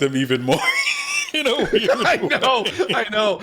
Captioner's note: both laughing